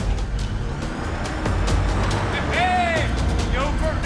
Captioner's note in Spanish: Sonido al abrir la puerta